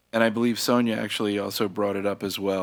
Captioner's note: none